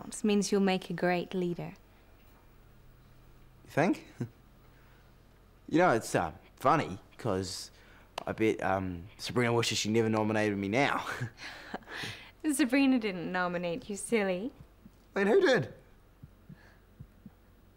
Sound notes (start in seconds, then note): 11.3 chuckling